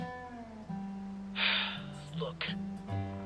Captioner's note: sigh